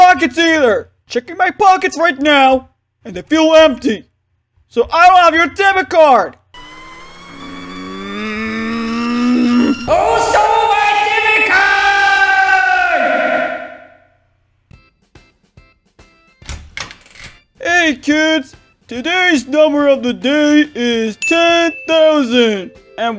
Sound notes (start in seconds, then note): 6.6 Bert growls; 16.4 door opens